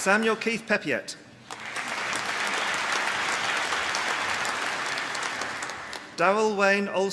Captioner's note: applause